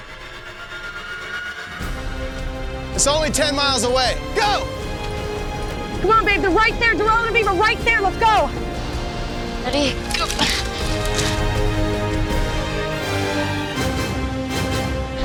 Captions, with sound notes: (compelling music) It's only 10 miles away. Go! - Come on, babe, they're right there. Darrell and Aviv are right there, let's go. - Ready? Go. (grunts) (compelling music continues)